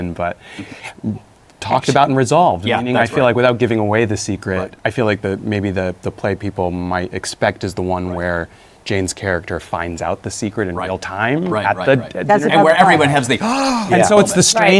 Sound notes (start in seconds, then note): 13.4 gasps